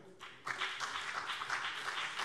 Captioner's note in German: Beifall BÜNDNIS 90/DIE GRÜNEN und CDU